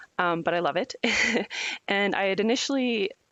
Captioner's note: laughs